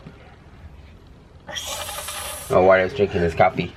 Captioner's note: hissing sound